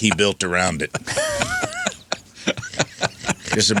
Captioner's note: laughing